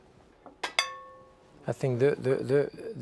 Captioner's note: dish clanging